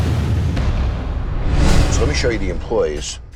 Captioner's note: dramatic music; air whooshing